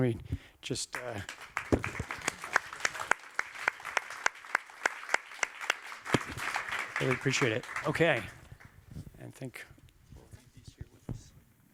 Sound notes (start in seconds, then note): 0.9 applause